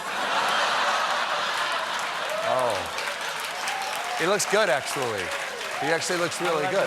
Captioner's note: laughter; applause